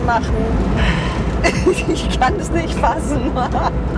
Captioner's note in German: lacht